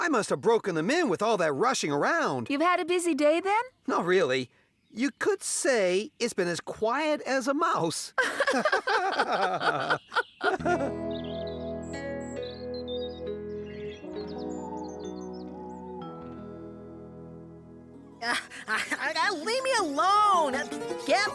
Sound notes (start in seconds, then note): 8.1 laughing; 12.2 birds Tweeting